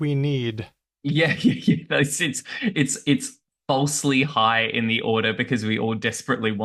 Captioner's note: laughs